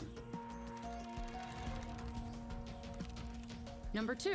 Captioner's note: soft calm music; keyboard clicking